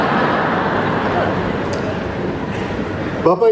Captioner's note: laughing audience